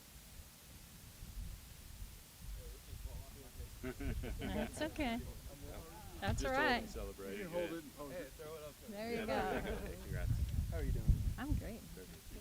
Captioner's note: applause